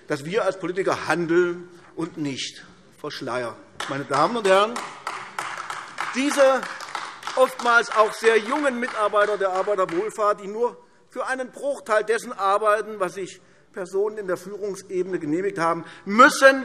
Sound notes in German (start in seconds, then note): 3.8 Beifall AfD